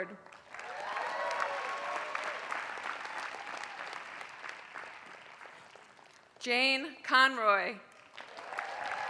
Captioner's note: applause